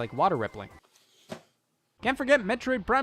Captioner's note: case thudding